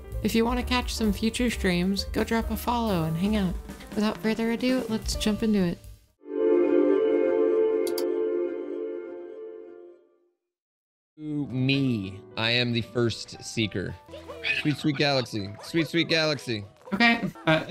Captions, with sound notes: If you wanna catch some future streams, go drop a follow and hang out! Without further ado, let's jump into it! ...Po- Me, I am the first... seeker [Unknown whispering] Sweet Sweet Galaxy! [Unknown whispering] Sweet Sweet Galaxy! Sweet Sweet Galaxy!! Okay!